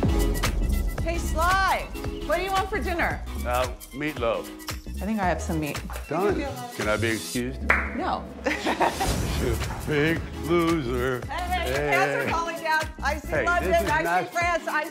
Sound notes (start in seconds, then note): 7.7 hands slapping; 8.4 laughing